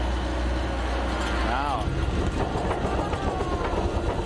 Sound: engine roars

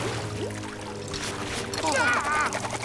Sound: shrieking

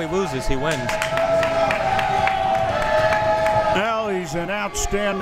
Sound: crowd members shouting

